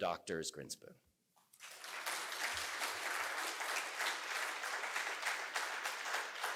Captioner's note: applause